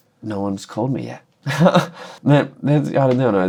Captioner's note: laughter